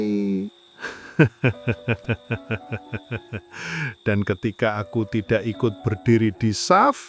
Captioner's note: laughs